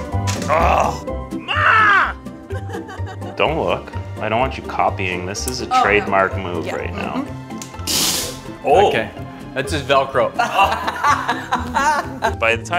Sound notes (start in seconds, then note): 0.5 grunts; 2.4 laughter; 10.4 laughter